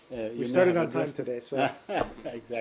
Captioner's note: laughter